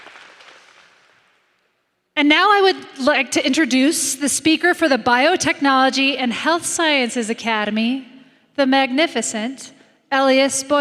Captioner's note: applause